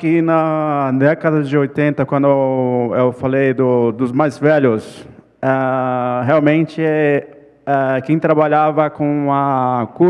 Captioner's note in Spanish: ponente habla en portugués